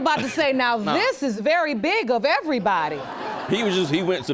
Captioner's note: audience laughs